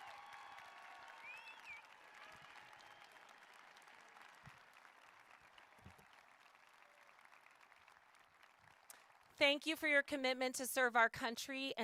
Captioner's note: applause